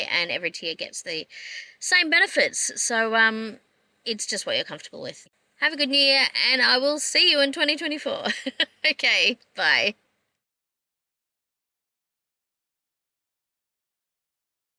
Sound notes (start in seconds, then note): 8.3 laughs